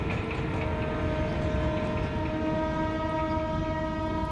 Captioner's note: train horn blowing